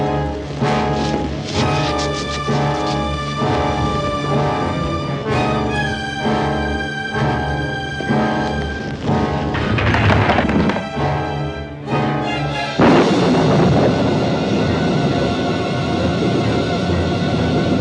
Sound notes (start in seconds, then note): 12.7 thunderclap